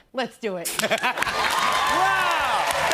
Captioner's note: cheers and applause